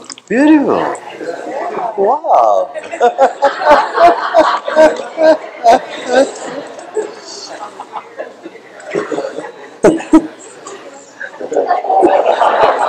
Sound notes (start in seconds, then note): 5.7 various voices of agreement; 11.4 laughter